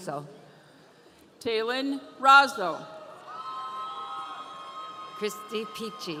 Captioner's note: audience cheering